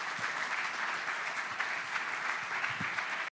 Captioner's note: audience applauds